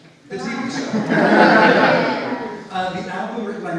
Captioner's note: audience laughs